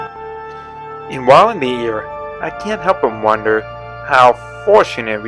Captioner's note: voiceover